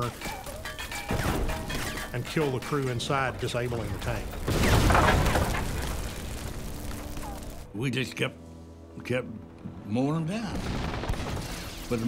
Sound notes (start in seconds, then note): 0.2 rapid gunfire exploding; 1.0 metal clanging from gunfire; 4.3 tank exploding; 4.4 fire crackling; 10.6 rapid gunfire exploding